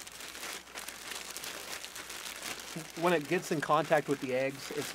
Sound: plastic rustling

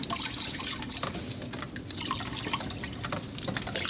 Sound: water sloshing

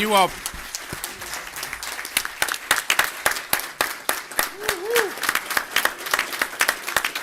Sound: applause

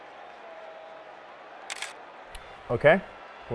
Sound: camera shutter

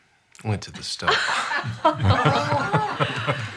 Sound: laughing

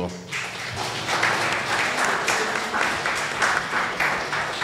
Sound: audience applause

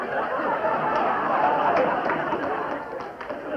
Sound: laughter

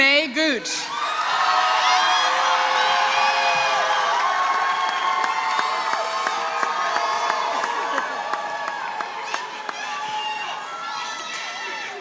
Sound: applause

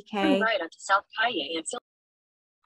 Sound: speaks faintly

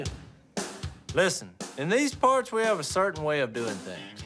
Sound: none

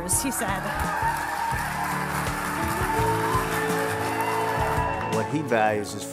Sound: applause

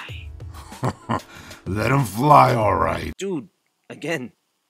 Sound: laughs

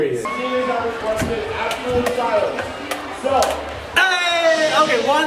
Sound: crowd chattering

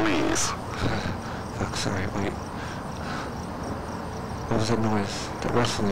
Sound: breathing

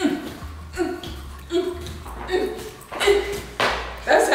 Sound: grunting

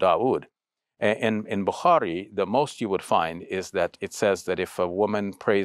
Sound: speaks Arabic

